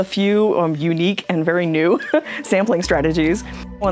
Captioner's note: laughs